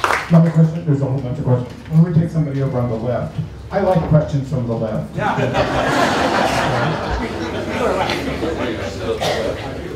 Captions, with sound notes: Another question? There's a whole bunch. We'll take somebody over on the left. I like questions from the left. [LAUGHTER]